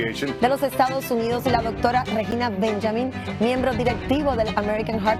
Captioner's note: speaks in foreign language